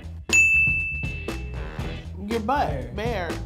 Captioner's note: dings